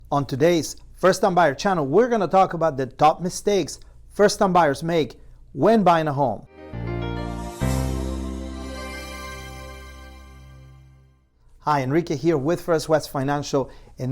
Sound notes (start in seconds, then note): 6.4 gentle music; 6.6 graphics whooshing